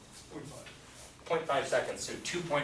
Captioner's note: voiceover